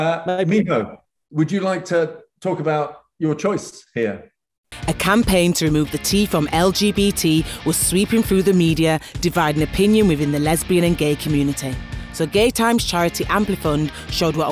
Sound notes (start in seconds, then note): 5.0 voiceover